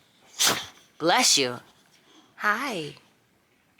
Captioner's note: dog sneezing